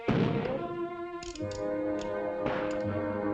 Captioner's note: firing outside